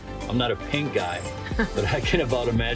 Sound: laughs

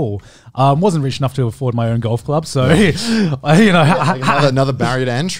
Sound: laughs

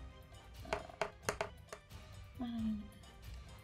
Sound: dice thudding; intense music

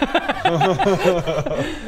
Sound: laughs

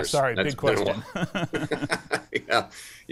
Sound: both laugh

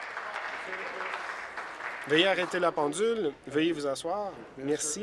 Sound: some Applause

